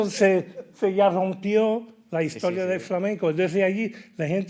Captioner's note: host laughing; speaking in Spanish